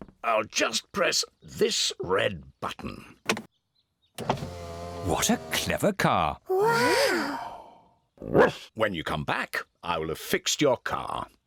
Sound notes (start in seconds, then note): 4.2 whirring; 8.0 barks